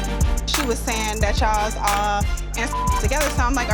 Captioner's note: beep